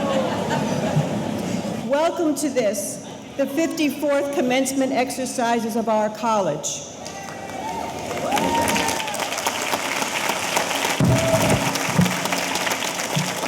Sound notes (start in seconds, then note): 7.1 audience cheering; 7.1 audience applauding